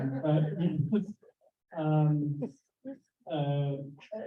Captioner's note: chuckling